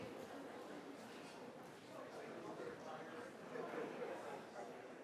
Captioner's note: audience talking indistinctly